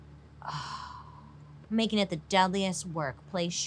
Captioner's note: sighs